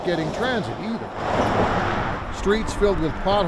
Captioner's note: traffic whooshes